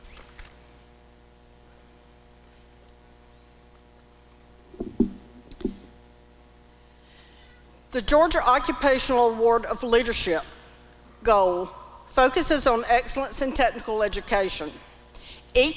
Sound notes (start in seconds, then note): none